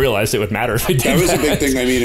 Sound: laughter

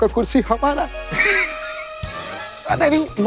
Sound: laughs

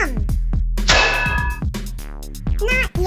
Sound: metal hit

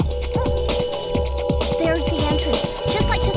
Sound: dogs barking

